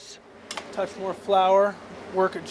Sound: voiceover

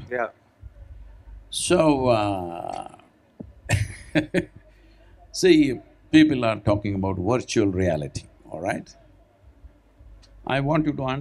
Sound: laughs

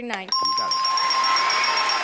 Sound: bell dinging; audience cheering

